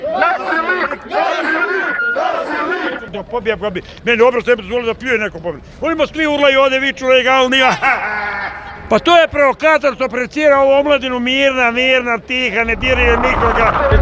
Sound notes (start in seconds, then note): 7.6 laughing